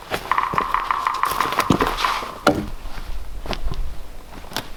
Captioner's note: woodpecker pecking